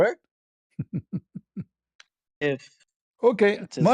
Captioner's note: ketawa